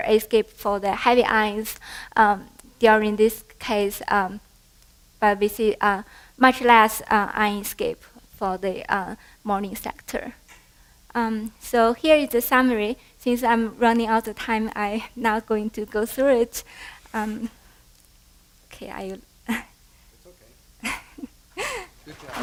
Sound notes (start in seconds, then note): 19.3 laughter